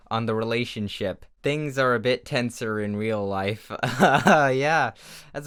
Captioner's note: laughs uncomfortably